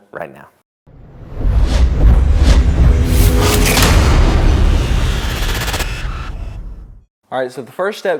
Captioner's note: sound effect